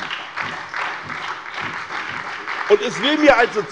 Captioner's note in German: Beifall bei der SPD